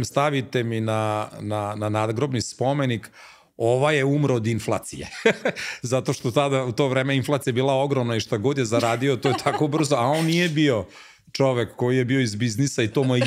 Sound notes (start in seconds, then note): 5.1 laughter